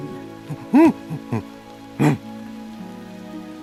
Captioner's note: grunts happily